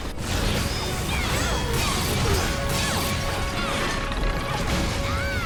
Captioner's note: dramatic music; weapons clanking